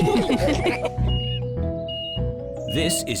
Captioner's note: all laugh; crane beeping